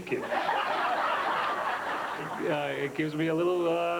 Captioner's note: laughter